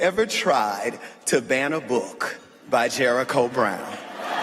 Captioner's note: laughter